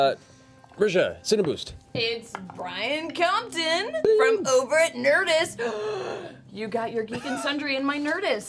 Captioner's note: gasps